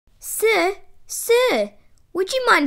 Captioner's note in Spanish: none